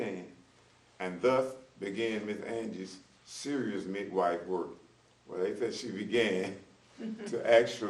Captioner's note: laughter